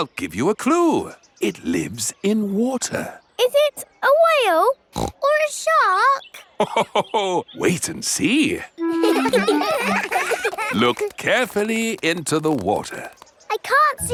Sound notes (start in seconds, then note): 4.9 snorts; 8.8 laughs; 8.8 children laughing